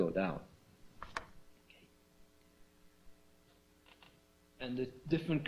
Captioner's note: pause